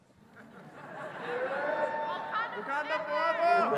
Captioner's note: audience laughs and cheers